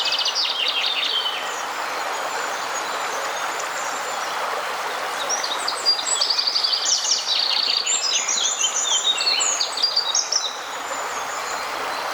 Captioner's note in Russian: шум реки; пение птиц